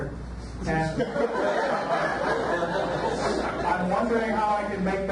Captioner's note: audience laughs